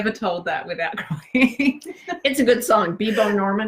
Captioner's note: laughs